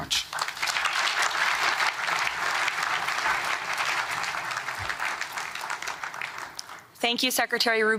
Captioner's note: applause